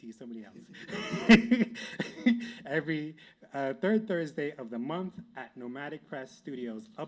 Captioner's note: laughs